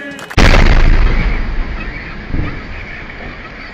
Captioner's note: sound of explosions